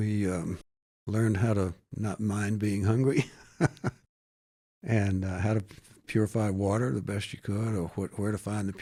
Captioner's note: laughs